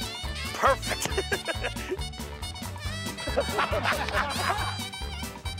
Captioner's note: laugh